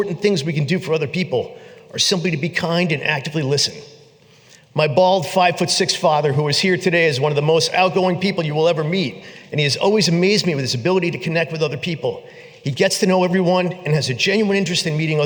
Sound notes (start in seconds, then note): none